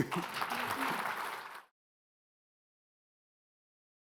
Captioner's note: laughs; attendees clapping